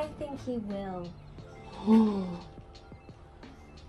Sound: gasp

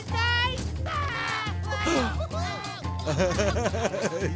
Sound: sing-songy; giggling

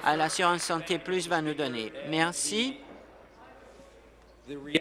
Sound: applause

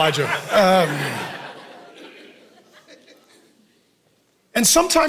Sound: congregation laughing

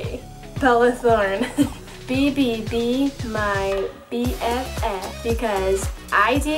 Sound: laughs

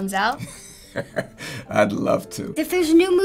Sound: chuckles

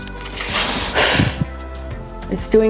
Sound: drawing paper scrapes; blows

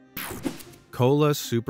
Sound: logo whooshing

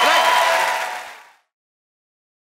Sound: applause

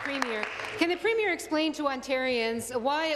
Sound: applause

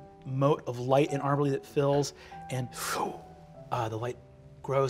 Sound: imitates light whooshing

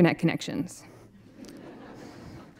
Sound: laughter

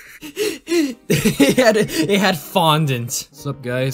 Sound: laughing

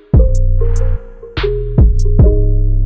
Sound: beat playing; text notification

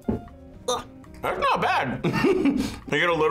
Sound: laughs

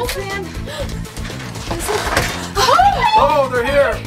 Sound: door creaks open

